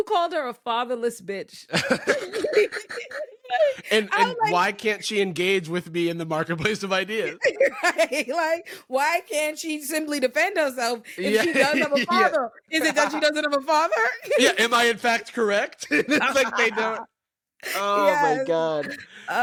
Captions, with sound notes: called her a fatherless bitch. (laughing) - And why can't she engage with me in the marketplace of ideas? - Right, like why can't she simply defend herself if she doesn't have a father? Is it that she doesn't have a father? - Am I in fact correct? (laughing) - Oh my God.